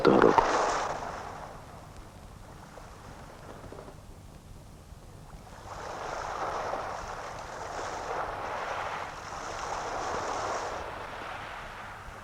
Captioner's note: the sound of sea waves